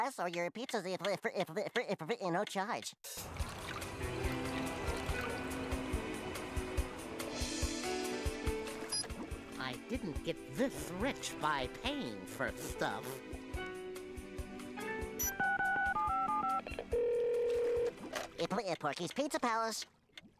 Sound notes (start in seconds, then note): 15.1 dialing; 16.9 telephone ringing